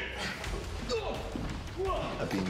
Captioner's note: both grunting